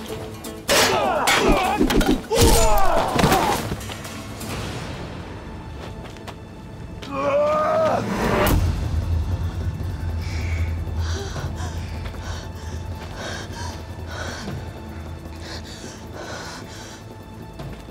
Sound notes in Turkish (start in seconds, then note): 0.6 Dövüş sesleri; 9.3 Nefes sesi; 9.4 Müzik - Gerilim